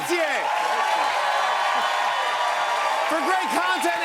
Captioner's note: cheers and applause